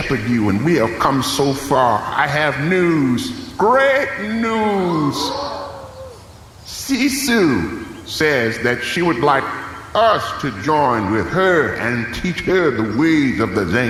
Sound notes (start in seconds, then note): 6.7 audience makes suspenseful noises